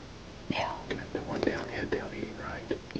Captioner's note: whispering